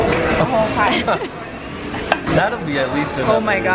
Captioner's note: laughing